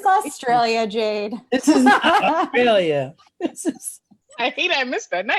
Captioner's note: laughs